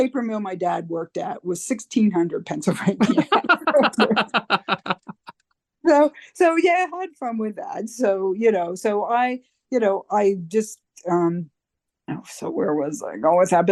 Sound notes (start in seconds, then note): 3.0 laughter